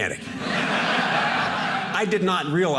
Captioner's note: audience laughing